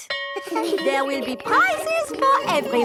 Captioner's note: school bell rings